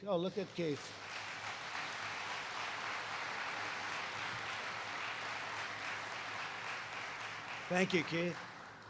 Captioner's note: applause